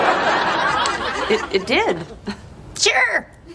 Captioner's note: laugh Track